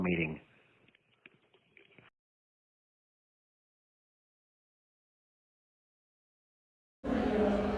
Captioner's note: silence